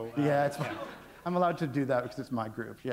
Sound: chuckle

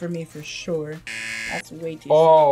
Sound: buzzer rings

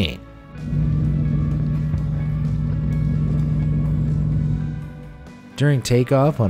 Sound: smooth music; plane engine roaring

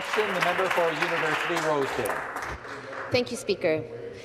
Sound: some Applause

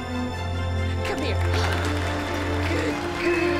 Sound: audience applauds

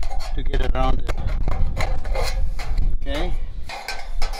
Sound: metal scissors clanking

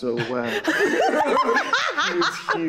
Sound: group laughing

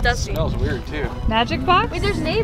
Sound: coughs

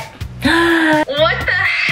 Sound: gasps

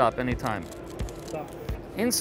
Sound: cards flutter

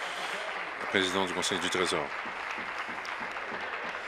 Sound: applause

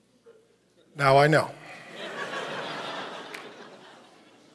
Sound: audience laughs

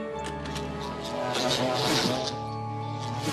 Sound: bees buzz

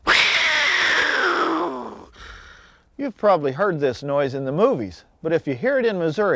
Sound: cougar call

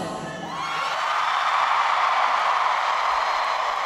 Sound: crowd cheering

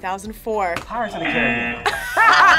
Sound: group laughs; buzzer

